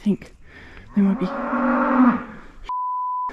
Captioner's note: satanic moo